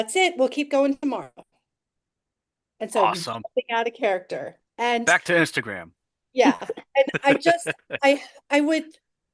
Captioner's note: laughs